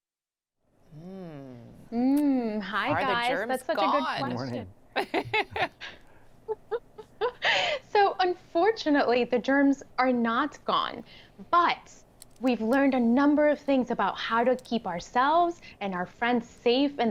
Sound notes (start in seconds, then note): 4.9 laughing